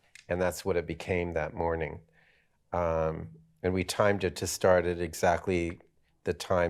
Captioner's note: none